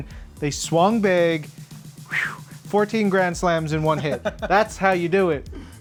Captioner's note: whew